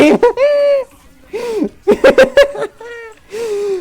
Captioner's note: laughs